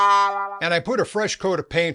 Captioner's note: sad trombone